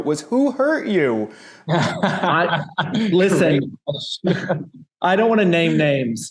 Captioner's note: laughing